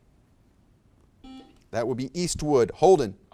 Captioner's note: buzzer beeps